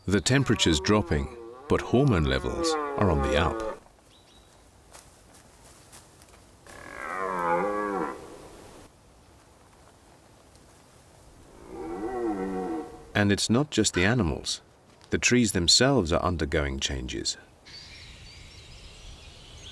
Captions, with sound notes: The temperature's dropping, but hormone levels are on the up. [bellowing] And it's not just the animals, the trees themselves are undergoing changes.